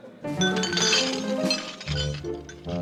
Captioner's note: dishes clinking